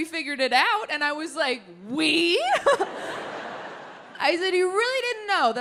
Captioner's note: audience laughing